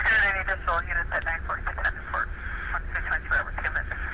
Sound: call over radio

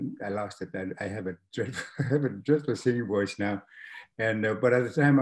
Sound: laughs

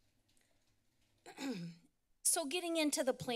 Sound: clears throat

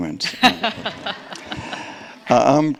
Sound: group laughing

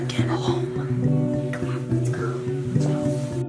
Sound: whispering

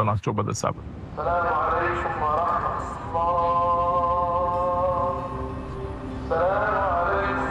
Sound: man vocalizing

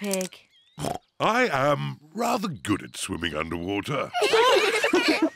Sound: oinks; all laugh

